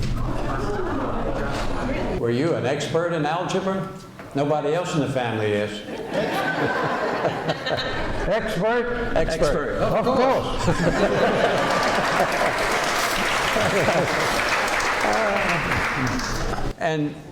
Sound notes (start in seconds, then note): 5.9 laughter; 9.8 laughing